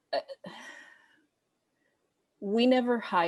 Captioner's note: sighs